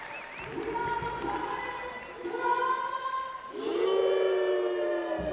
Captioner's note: performers cheering